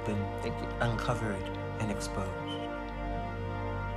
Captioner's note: voiceover; slow instrumental music